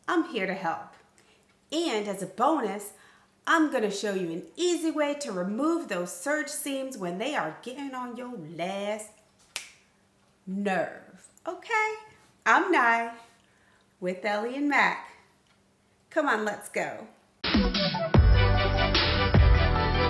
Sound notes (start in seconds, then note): 9.5 fingers snapping; 17.4 upbeat music